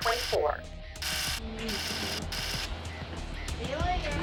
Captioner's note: rapid clacking